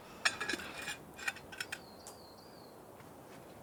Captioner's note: drinking canteens clanking